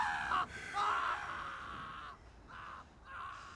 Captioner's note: sighs